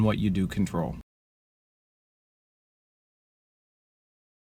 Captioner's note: silence